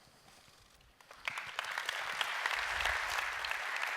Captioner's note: applause